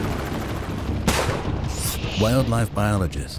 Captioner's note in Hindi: बंदूक़ की आवाज़